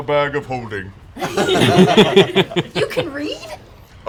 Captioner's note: laughter